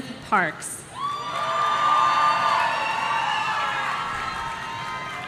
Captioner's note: audience cheering